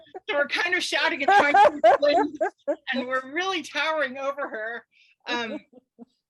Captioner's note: laughter in background